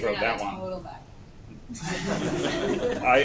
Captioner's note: laughter